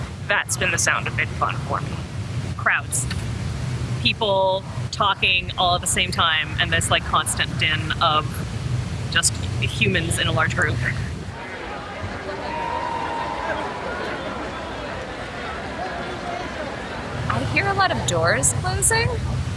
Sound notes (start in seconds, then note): 11.2 chatter, distant cheers